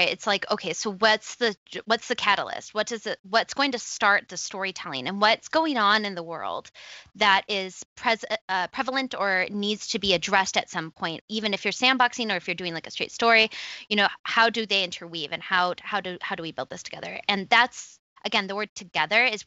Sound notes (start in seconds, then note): none